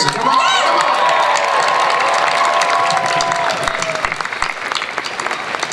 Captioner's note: cheering and applause